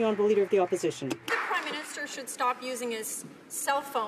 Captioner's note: some Applause